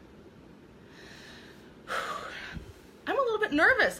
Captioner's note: exhaling